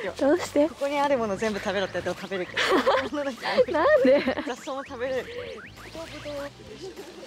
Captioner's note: Laughter